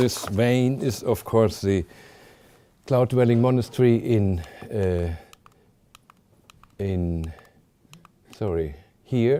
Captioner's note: clicking through slides